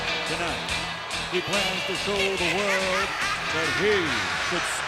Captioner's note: maniacal cackling